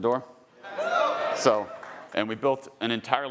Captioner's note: audience cheering